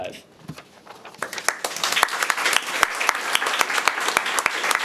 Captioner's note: audience applauding